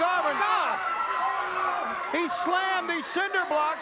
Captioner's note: crowd cheering